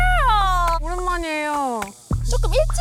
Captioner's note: in an excited voice